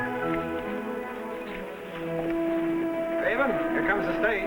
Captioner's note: horses galloping